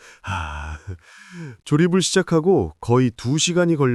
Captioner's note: chuckles